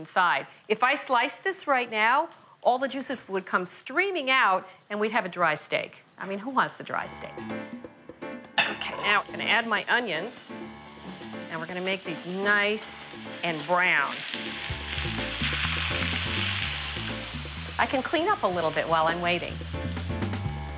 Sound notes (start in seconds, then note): 7.1 upbeat jazz music; 14.2 onions sizzling